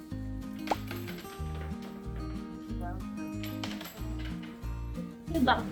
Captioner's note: tossing coins